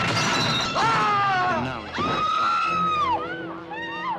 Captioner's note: scream